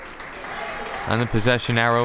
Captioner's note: crowd members clapping